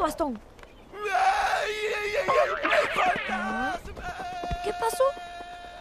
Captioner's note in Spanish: gritos